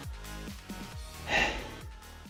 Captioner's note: sigh